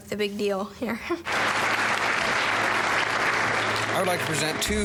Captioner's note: applause